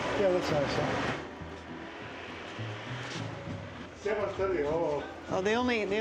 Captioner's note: people chattering